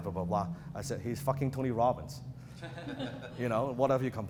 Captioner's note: audience laughs